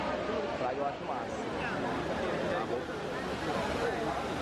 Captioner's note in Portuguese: som de água na fonte com conversas ao fundo